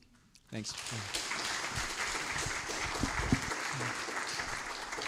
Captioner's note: applause